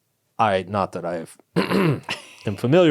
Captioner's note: clears throat